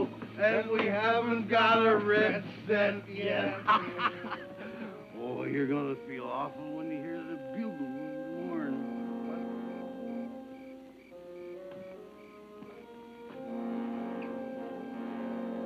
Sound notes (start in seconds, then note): 3.1 laughs; 9.6 tense music